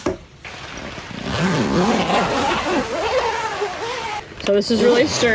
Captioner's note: tent zipping